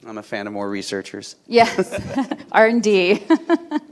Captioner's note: chuckles